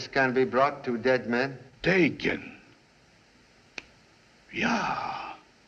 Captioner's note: snaps Fingers